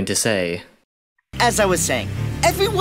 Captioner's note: silence